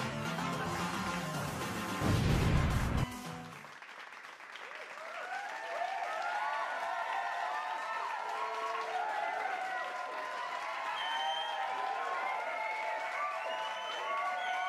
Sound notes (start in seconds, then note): 2.4 crowd cheering and clapping